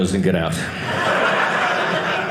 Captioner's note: audience laughing